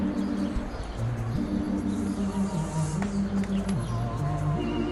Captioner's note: ghoulish music; sounds of traffic and people